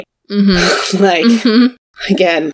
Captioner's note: sighs